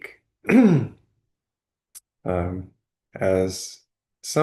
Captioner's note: clears throat